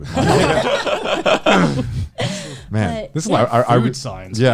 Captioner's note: all laughing